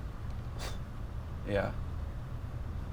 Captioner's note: scoffs